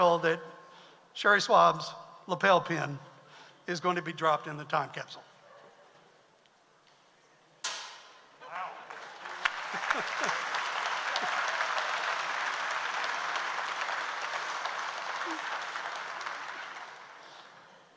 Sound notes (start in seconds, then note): 7.7 metal clanking; 9.0 audience applauds